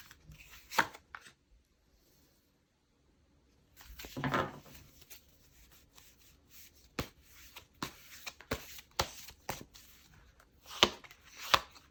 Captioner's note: drawing cards